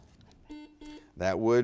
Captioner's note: buzzer beeps